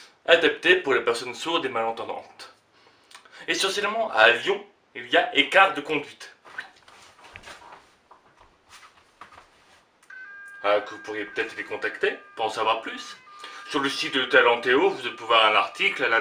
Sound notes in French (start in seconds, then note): 10.0 signal d'alarme que je n'entends pas